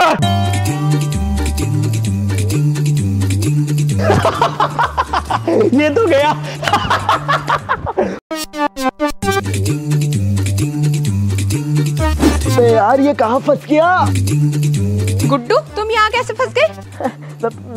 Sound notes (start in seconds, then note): 4.0 laughing